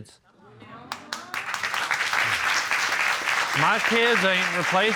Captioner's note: applause